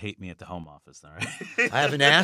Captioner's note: laughter